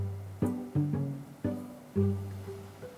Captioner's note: hurried